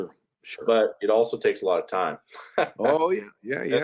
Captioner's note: laughing